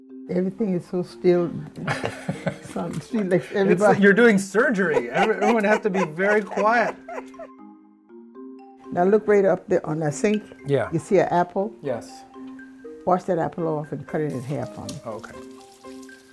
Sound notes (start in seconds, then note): 4.6 laughing